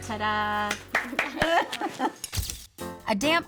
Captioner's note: applause